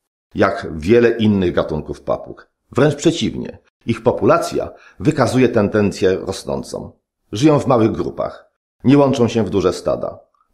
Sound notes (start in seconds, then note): none